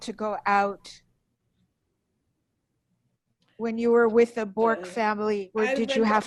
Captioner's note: pauses for 3 seconds